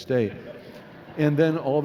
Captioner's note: laughing